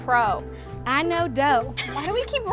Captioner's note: laughs